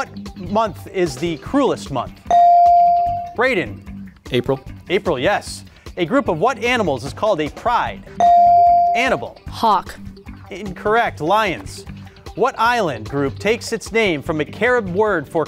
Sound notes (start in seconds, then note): 2.3 beep; 8.2 beep